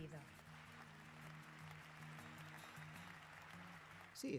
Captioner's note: applause